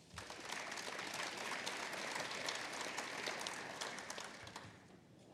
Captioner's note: applause